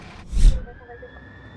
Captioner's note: sirens